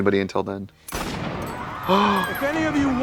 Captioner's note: gun fires; party goers scream